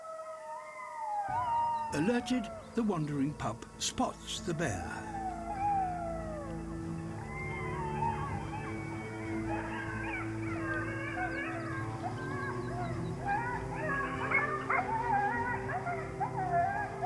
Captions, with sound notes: Alerted, the wandering pup spots the bear. (HOWLING) (BARKS)